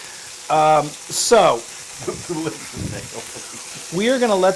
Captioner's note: laugh